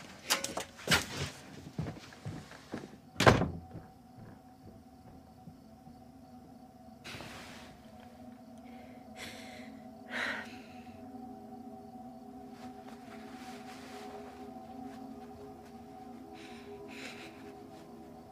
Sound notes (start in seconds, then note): 10.0 exhales